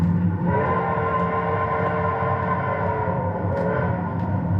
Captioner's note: train whistles